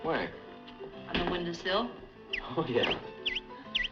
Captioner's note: chirping